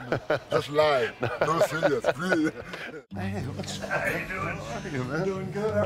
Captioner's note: laugh